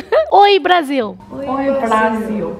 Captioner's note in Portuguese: risos